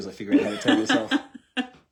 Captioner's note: laughter